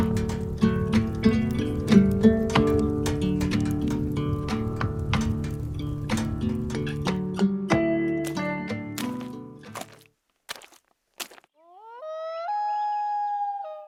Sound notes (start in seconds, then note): 10.1 animal howls; 10.4 footsteps thudding